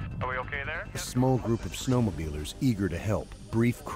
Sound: voiceover

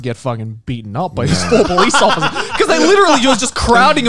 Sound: laughing

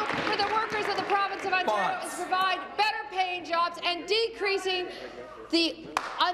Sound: applause

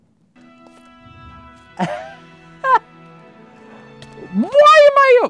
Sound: laughs

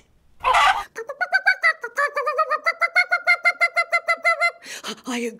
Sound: random rooster wildly bok-bok'ing

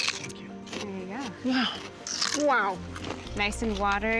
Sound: crunching loudly

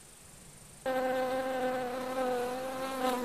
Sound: bee buzzes

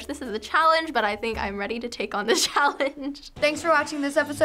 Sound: chuckles

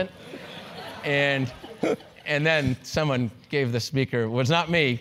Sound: laugh

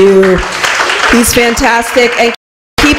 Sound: applause

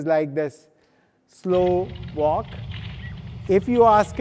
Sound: feet clatter

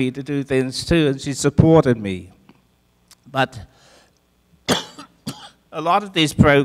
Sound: coughs

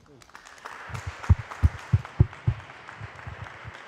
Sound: applause

